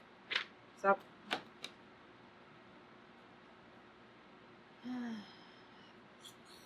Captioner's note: sighs